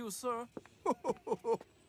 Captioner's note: laughs